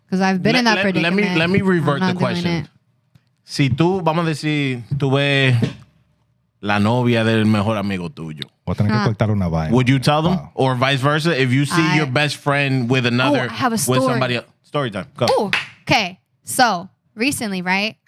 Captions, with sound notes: Because I've been in that pretty-- Let me revert the question. (Non-english Speech) Would you tell them? Or vice versa, if you see your best friend with another-- I have a story. Story time. Go. OK. So recently, right?